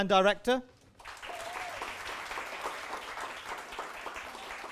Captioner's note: applause and cheers